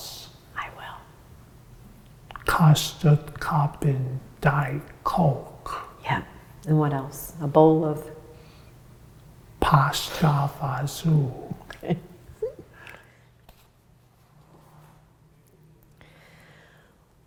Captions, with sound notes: - I will. - Custard cup and diet Coke. - Yup, and what else? A bowl of... ? - Pasts fasul. - (chuckles) Okay.